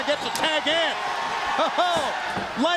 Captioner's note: crowd cheering